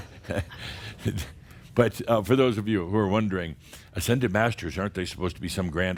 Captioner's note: Adamus chuckles